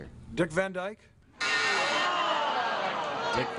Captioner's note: buzzer beeps